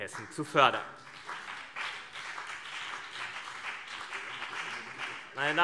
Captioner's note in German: Beifall CDU und BÜNDNIS 90/DIE GRÜNEN